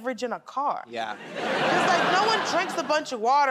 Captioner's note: laughter